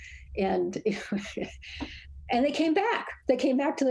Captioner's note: laughs